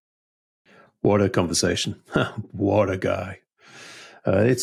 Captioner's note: chuckles